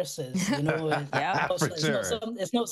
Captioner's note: laughter